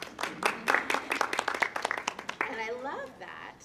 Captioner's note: audience clapping